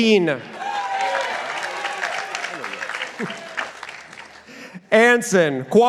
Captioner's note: participants applauding